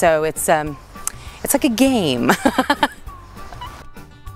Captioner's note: laughs